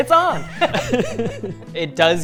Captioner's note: laughing